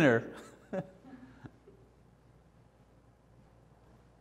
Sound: laughter

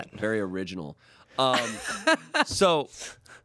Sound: laughs

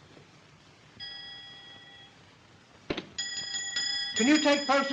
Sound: bell dings repeatedly

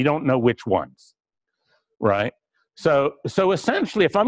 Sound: pause

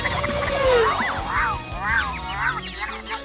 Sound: squeaking

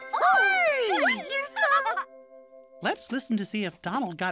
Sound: cheering

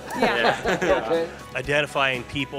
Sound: laughing

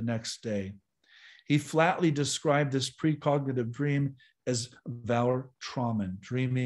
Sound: german

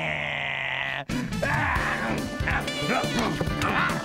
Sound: grunting, chomping, roaring

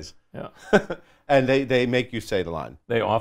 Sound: laughs

